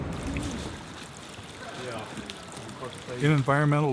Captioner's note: grup birlikte konuşuyor